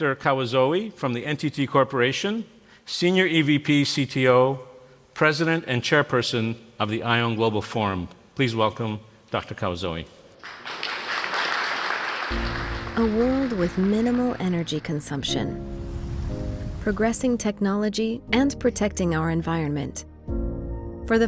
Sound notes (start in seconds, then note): 10.4 applause